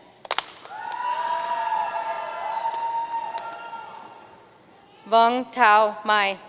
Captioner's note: audience cheering and applauding